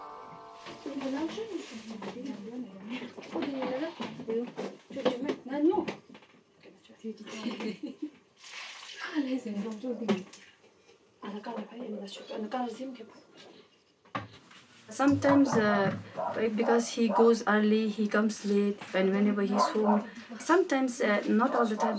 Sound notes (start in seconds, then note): 0.9 speaking in foreign language